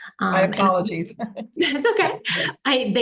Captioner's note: laughs